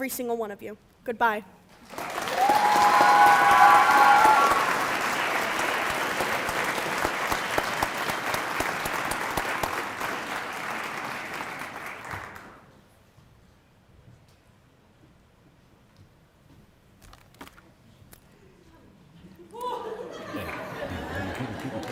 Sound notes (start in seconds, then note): 6.6 cheering and applause